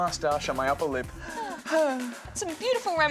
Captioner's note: sighs